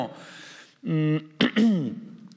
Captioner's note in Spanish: carraspea